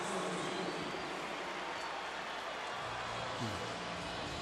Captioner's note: pa announcement